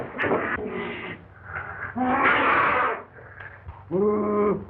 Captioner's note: snarling, growling